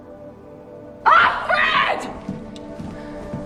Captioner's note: voiceover; shouting